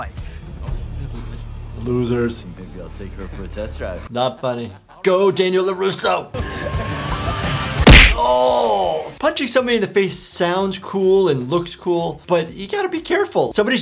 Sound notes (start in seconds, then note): 6.4 intense rock music; 7.8 loud punching